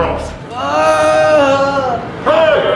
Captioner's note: screaming